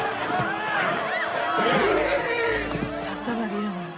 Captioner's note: neighs; speaking spanish